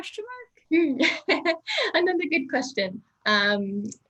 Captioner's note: chuckles